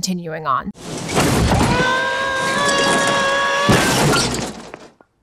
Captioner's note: Marv and Harry yell